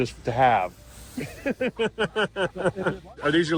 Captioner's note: laughs